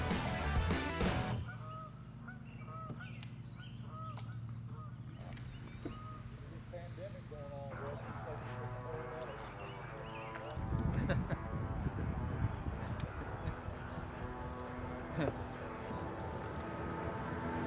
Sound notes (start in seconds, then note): 1.9 goose noises in background; 10.8 chuckles